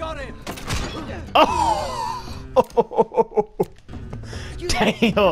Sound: amazed laugh

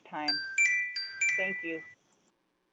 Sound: chime

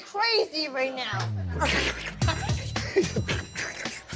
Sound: laughter

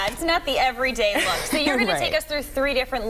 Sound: laughter

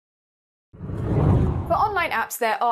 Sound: hard whooshing

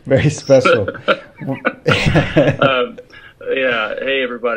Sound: laughs

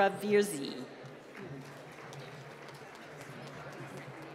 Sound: applause

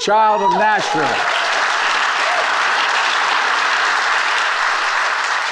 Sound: attendees applauding

